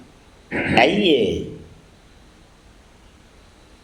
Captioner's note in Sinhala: උගුර කෑරීම